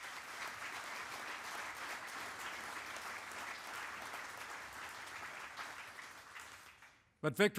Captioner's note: applause